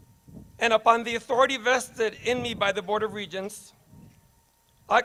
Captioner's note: none